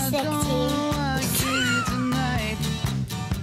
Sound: laughter

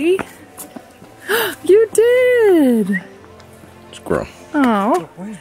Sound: gasps

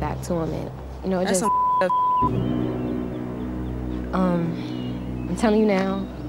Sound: beep

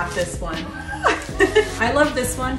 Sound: laughing

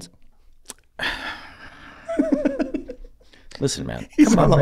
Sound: Rob laughs

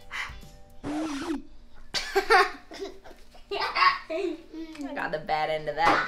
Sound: record squeals; laughs

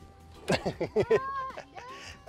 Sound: laughs

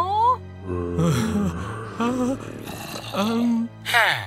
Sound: zombie Noises, Narrator Whimpering

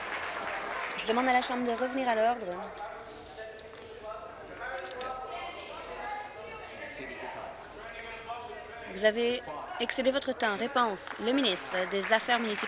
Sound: applause

